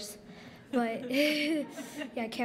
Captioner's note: laughter